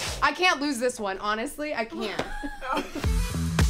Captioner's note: laughing